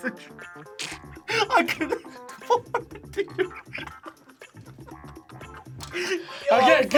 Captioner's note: both laugh